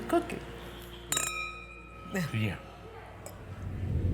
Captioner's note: glasses clang